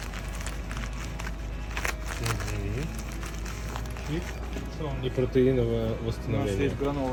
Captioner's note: rustles packaging